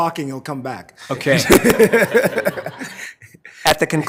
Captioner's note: committee members laughing